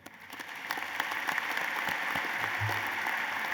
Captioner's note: applause